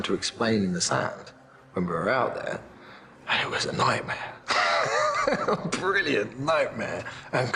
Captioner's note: laughs